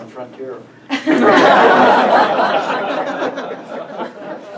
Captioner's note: audience laughs